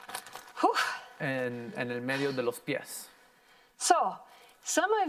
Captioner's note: heavy breathing